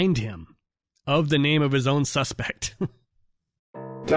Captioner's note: laughter